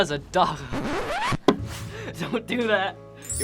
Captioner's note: laughs